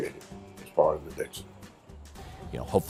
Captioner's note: voiceover